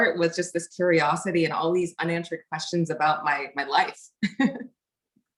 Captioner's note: laughs